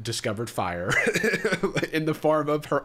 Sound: chuckles

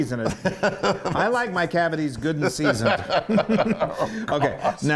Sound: laugh

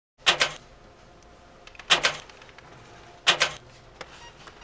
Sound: machine clicks rhythmically

